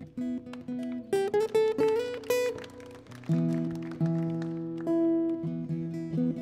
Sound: audience applauding; tuning instruments

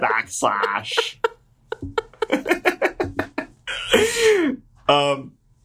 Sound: laughter

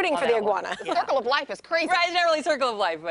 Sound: laughter

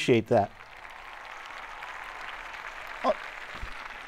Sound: audience cheering

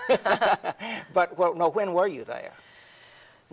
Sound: both laughing

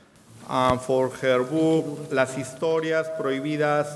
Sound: speaking in a foreign language

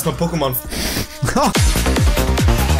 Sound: laughs

